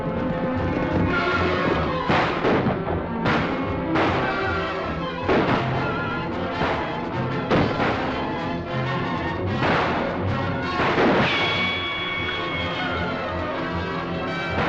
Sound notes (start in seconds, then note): 1.2 gunshots